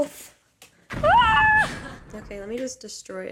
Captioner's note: hits camera